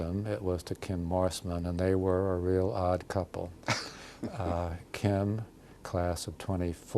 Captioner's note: laughter